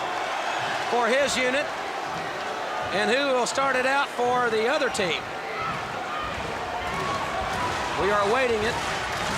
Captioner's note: crowd chatter